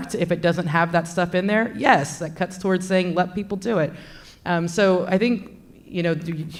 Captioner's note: none